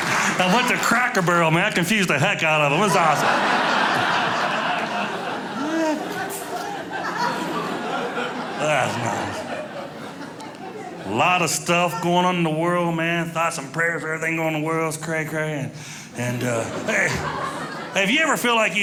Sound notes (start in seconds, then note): 0.0 audience laughing; 3.8 audience laughing